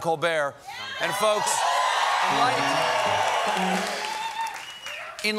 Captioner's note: cheers and applause